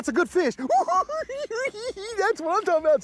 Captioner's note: giggles